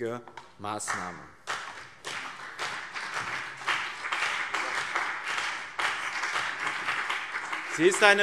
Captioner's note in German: Beifall BÜNDNIS 90/DIE GRÜNEN und CDU